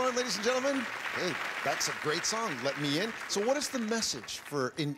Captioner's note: applause